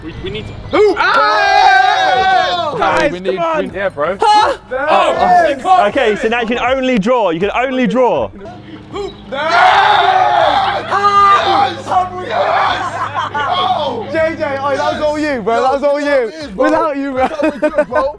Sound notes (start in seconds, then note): 0.0 men laughing; 0.7 men cheering; 10.4 men cheering; 12.3 men laughing